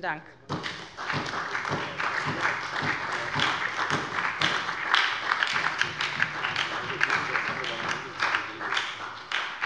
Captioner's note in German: Beifall bei der SPD und bei Abgeordneten der LINKEN